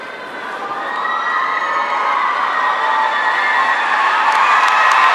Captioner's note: audience cheering